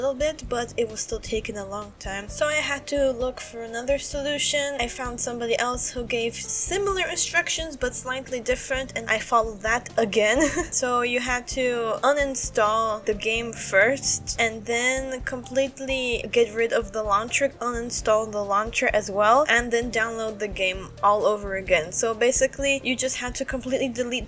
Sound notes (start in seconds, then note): 10.4 chuckle